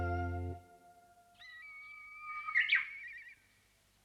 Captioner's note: The call of a Japanese bush warbler